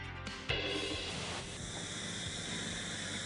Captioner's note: Spraying nat